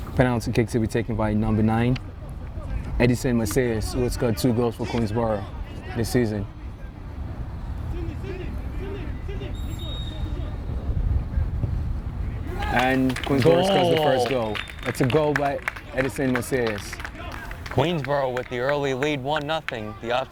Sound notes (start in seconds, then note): 7.8 players shouting; 9.5 whistle tweeting